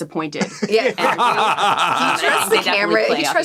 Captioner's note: all laughing